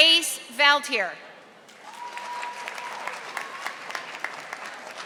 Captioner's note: audience applauding